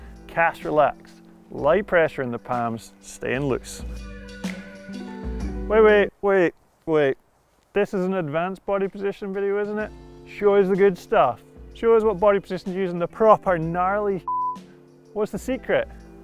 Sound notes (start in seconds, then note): 4.3 calm upbeat music; 14.2 beep